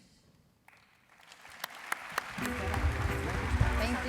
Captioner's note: applause